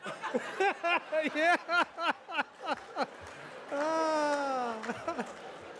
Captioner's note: laughs